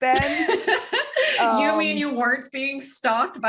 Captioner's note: laughter